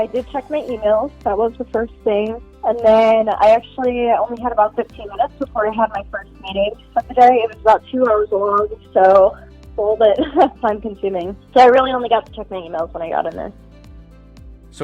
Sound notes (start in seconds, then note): 10.1 laughs